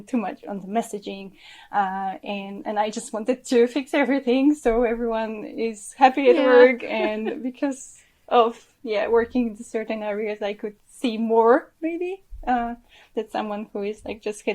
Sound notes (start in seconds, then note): 6.2 chuckles